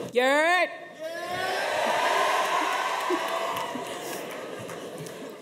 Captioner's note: audience cheers